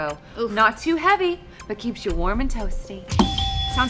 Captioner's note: buzzer rings